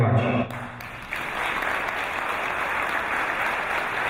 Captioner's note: applause